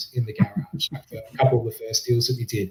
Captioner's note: laughs